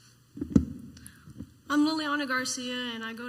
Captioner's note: microphone feedback